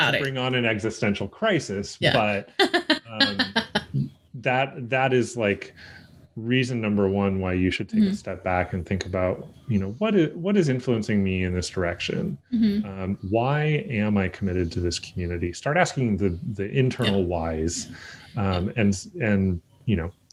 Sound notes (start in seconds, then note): 3.0 laughs